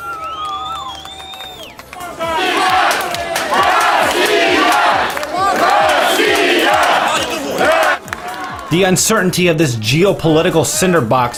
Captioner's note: shouting in Russian